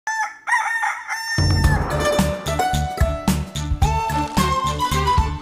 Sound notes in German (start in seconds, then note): 0.0 Hahn kräht; 1.4 Titelmelodie